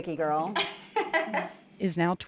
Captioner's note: laughs